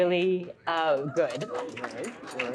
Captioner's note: audience cheering